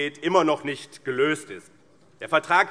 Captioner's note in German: none